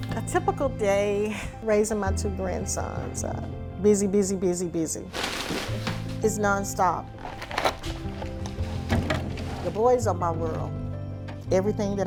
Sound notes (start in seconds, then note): 7.0 packets rustling; 7.2 bottles thudding